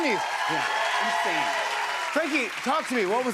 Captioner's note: cheers and applause